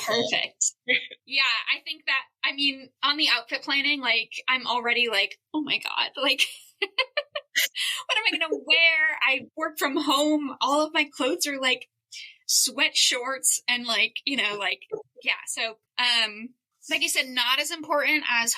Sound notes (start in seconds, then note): 0.9 chuckle; 6.7 laughter